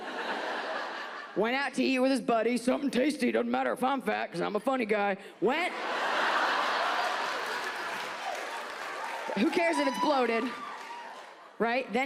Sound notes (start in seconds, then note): 0.0 audience laughs; 5.6 audience laughs